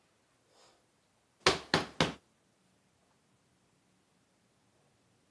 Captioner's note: door knocking